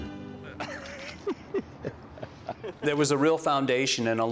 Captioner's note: laughter